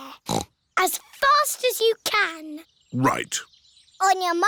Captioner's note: snorts